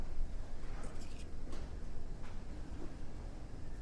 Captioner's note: cup rustles